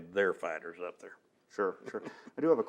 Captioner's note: laughs